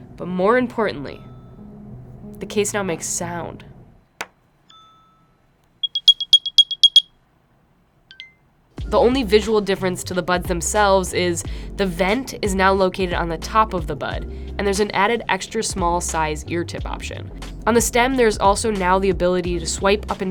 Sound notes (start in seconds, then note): 5.8 beeping; 5.8 dinging